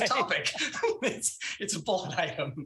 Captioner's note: laughs